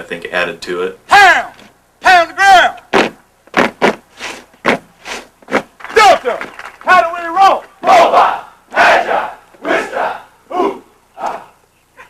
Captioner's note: shouting